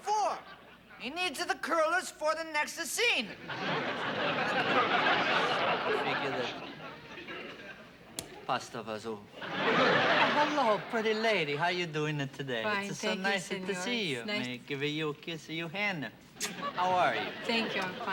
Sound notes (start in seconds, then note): 3.4 laughter; 3.9 muttering in Italian; 7.7 speaks Italian